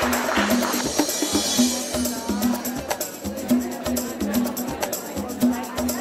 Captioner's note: chatter